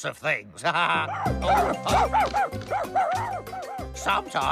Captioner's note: excited Barking